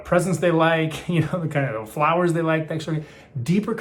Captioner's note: laughs